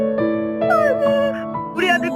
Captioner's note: mom/voice trembling